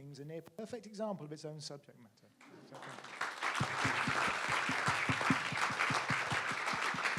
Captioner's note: audience applauds